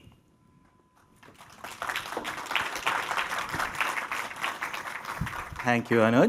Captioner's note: applause